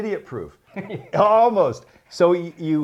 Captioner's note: laughs